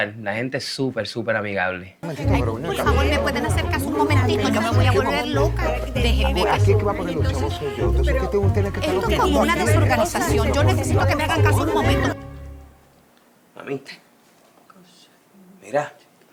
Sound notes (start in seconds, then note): 2.2 arguing